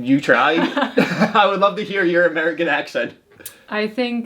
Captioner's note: laughs